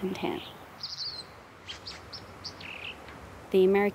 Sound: bird trilling

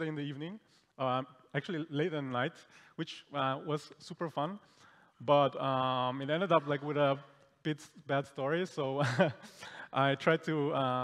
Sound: chuckles

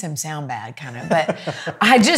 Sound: laughs

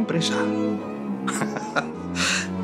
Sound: laughs

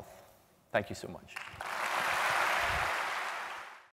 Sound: applause

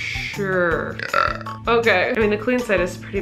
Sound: belches

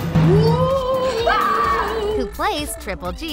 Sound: screaming

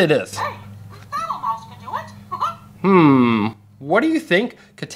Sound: voiceover

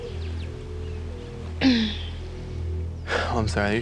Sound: sighs; clears throat

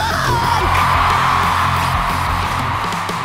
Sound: cheering

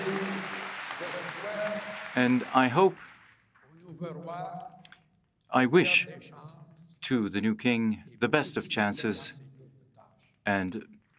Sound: applause

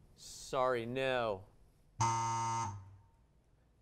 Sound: buzzer

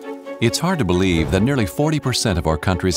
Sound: grim orchestral music; voiceover

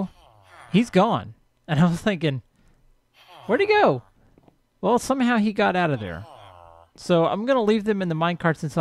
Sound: chattering continues

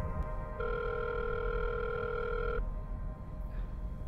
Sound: phone dialing

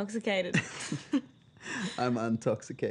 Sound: laughter

